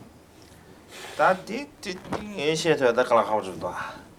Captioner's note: non-english speech